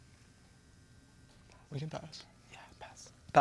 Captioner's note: whispers